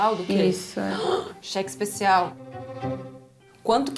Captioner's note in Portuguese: suspira